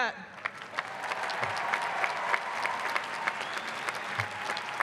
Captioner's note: clapping and cheering